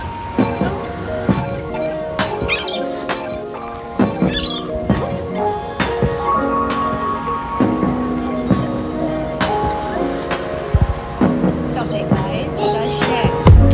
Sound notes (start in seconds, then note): 1.3 bird screeches; 4.0 another screech